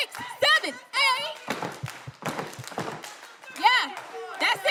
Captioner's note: all clapping